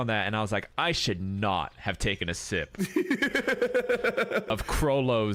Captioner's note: laughs in the background